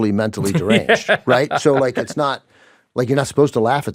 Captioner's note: laughs